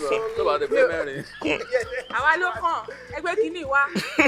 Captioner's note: laughs